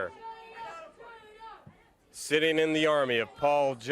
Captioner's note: crowd chatter